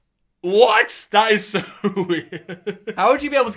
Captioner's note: laughs